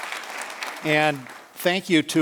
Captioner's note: applause